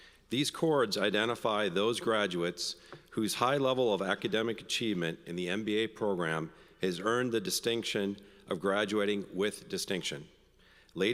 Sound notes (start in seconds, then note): none